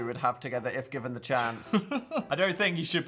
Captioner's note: Phil laughs